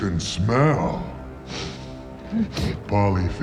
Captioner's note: sniffs